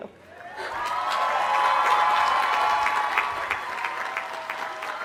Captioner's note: cheers and applause